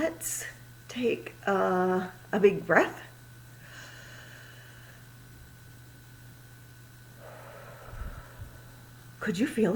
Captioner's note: inhales a deep breath and exhales loudly